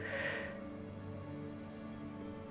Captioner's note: sighs